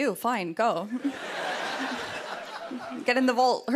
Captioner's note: laughter